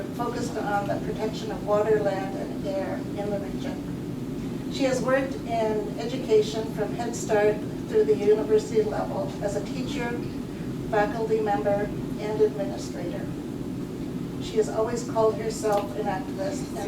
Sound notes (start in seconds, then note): none